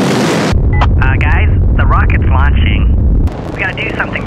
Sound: over comm

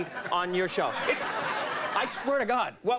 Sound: audience laughing

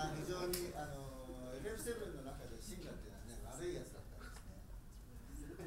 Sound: speaking in foreign language

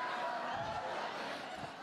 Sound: laughter

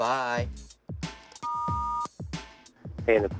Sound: beeping

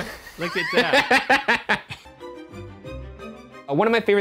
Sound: laughing

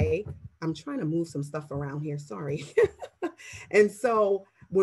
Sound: laughs

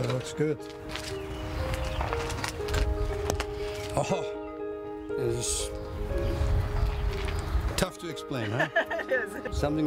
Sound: laughs

